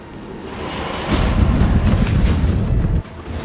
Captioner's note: portal rumbles